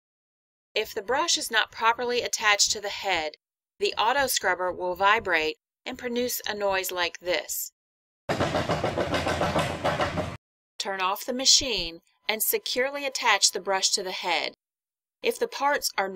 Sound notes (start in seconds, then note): 8.3 thudding